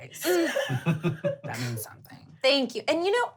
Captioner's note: laughing